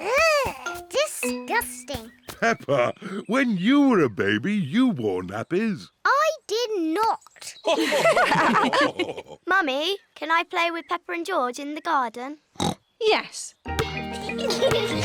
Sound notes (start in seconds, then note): 7.7 others laugh; 12.6 oinks